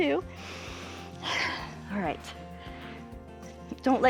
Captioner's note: inhales and exhales